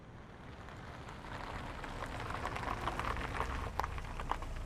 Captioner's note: engine softly whirs